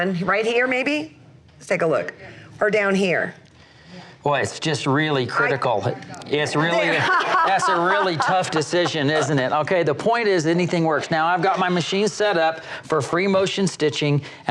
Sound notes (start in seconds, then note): 6.7 laughs